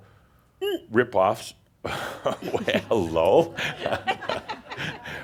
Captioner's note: Adamus chuckles